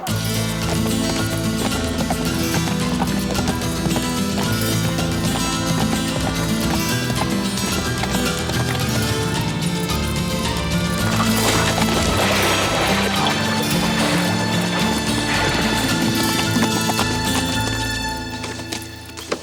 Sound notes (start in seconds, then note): 0.0 dramatic music; 0.0 hooves clop; 11.9 water splashes; 16.1 hooves clop